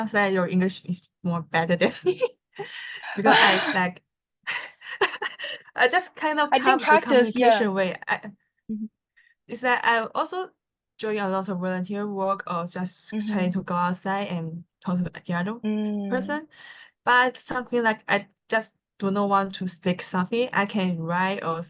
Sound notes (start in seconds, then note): 4.5 both laugh